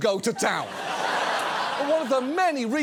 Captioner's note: audience laughs